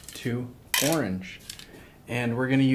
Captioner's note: rattles